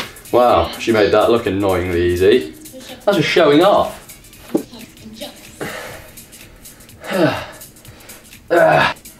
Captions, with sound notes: Wow, she made that looking annoyingly easy. That's just showing off. [Eugh] [Gahh]